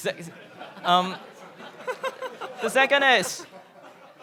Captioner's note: everyone laughs